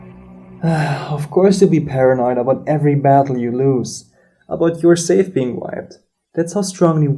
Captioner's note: sigh